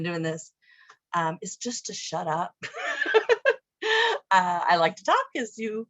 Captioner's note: laughing